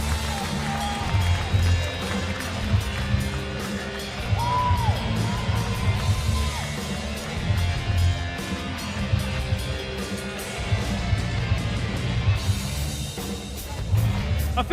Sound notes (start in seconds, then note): 4.0 cheers and applause